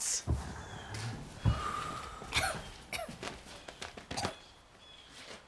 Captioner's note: vivien exhaling deeply; june coughing